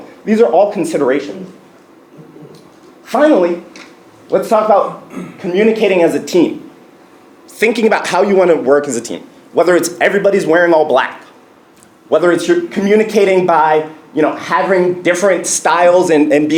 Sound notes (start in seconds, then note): 5.0 cough